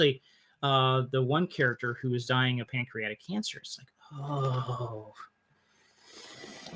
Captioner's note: groan